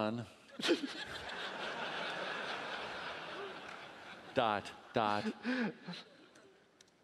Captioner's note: laughing